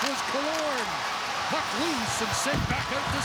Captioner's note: cheering and Applause